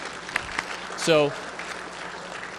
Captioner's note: applause